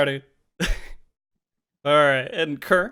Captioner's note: laughs